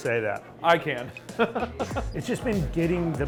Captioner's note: laughs